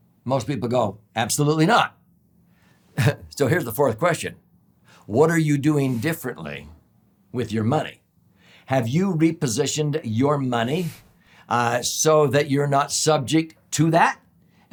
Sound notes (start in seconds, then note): 2.9 chuckles